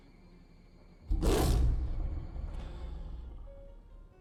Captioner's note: roars